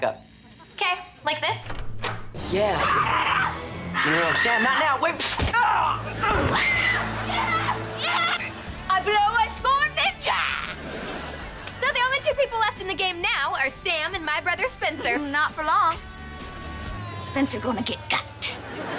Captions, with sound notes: - Okay. Like this? - Yeah but- [Sam shrieking] No, no, Sam, not now. Wait. [grunting] [shrieking] Yeah! Yeah! I blow. I scored. Ninja. So the only two people left in the game now are Sam and my brother Spencer. Not for long. Spencer going to get got.